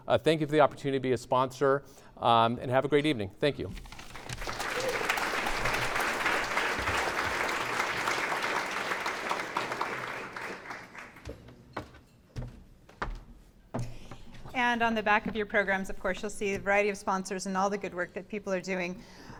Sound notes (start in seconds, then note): 4.1 clapping